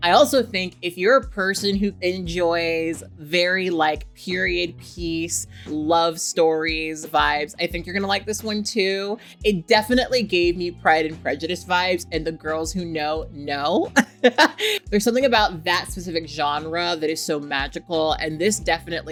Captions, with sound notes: I also think if you're a person who enjoys very period piece, love stories vibes, I think you're gonna like this one too. It definitely gave me "Pride and Prejudice" vibes, and the girls who know know (laughs). There's something about that specific genre that is so magical,